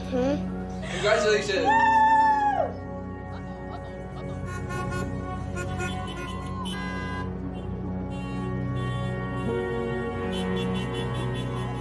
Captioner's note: car horns honking